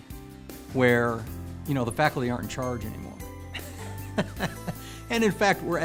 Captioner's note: laughing